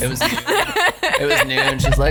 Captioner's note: laughs